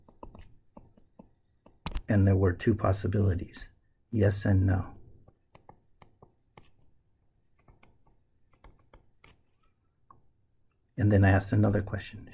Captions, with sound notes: And there were two possibilities, yes and no. [ Tapping Sounds ] And then I asked another question,